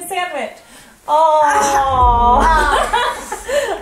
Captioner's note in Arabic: يضحك